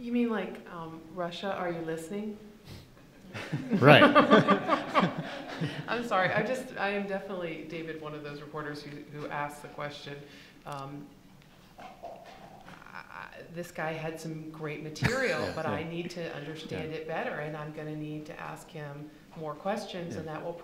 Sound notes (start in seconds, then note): 3.0 laughing